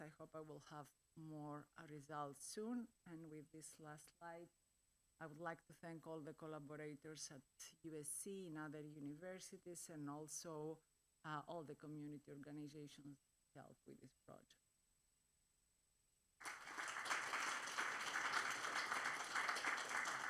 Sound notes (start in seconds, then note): 16.4 applause